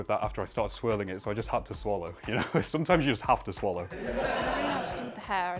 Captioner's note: laughter